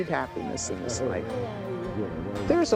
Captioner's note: party chatter